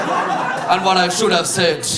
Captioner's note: audience laughing